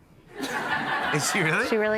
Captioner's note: laughter